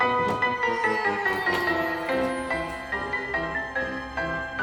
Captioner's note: chains jangling